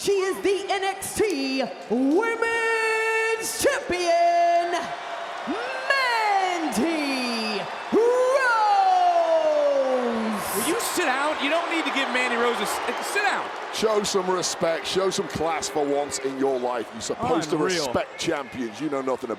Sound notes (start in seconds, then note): 8.2 crowd boos